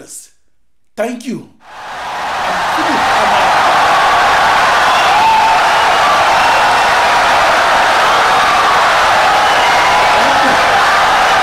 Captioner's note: wild applause and cheering for 17 seconds